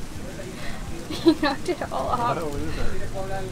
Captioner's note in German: Gelächter